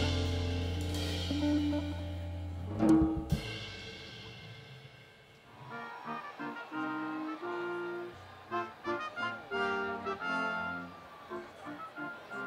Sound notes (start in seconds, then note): 5.4 students cheering; 5.8 upbeat collegiate music